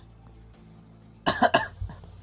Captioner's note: coughing